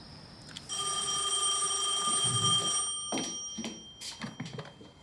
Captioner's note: phone rings